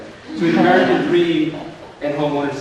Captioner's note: audience laughs